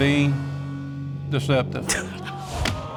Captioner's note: chuckles